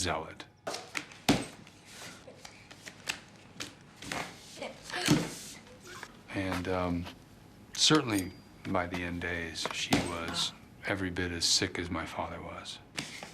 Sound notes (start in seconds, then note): 1.8 kids laughing